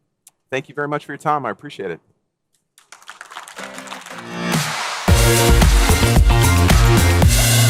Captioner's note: applause